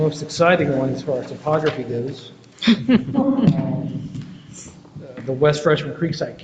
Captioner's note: board members chuckle